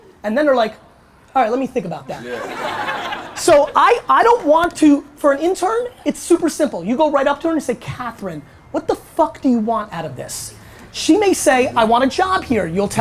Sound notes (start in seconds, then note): 2.2 audience laughter